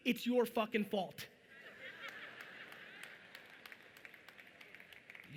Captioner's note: audience chuckling